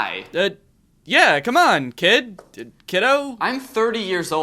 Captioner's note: voiceover